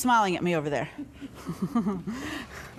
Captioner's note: laughs